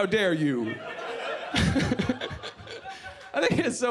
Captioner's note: laughs